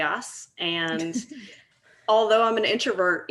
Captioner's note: laughing